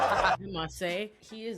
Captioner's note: audience laughing